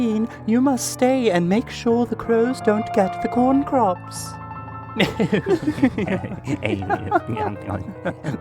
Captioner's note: laughter